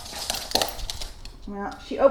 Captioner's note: click-click